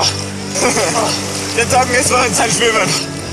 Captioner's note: laugh